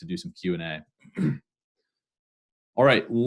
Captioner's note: clears throat